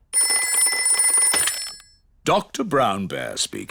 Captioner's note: ringing